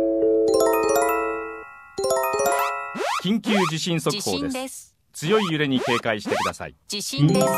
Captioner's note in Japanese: 警報